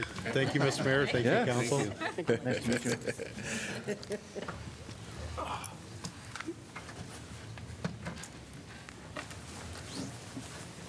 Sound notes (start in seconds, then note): 1.6 laughter